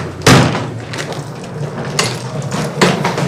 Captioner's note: luggage thuds, rolling